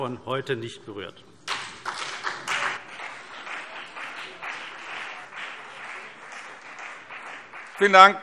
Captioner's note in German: Beifall CDU und BÜNDNIS 90/DIE GRÜNEN